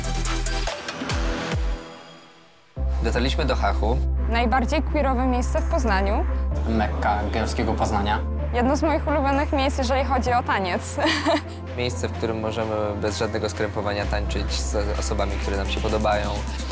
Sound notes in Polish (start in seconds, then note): 11.0 śmiech